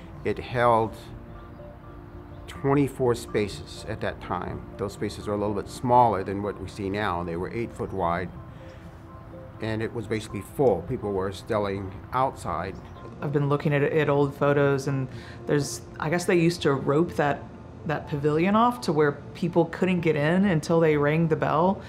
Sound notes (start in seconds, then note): none